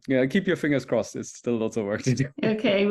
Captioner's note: laughs